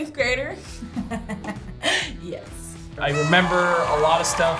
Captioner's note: laughs